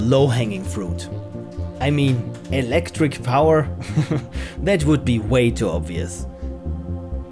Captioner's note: chuckle